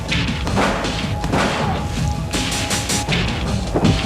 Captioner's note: shotgun firing